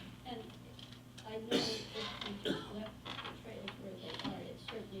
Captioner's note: faintly speaking